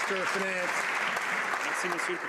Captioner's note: some Applause